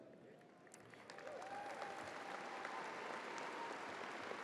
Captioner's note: crowd applauding